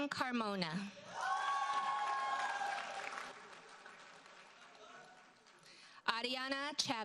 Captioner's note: audience cheers and applauds